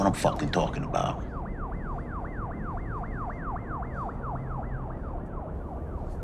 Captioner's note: alarm wailing in background